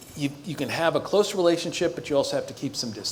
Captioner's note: none